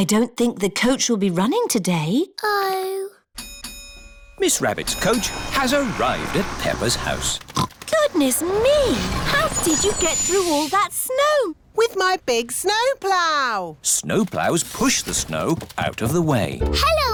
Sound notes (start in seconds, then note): 3.4 coach bell dings; 6.8 oinks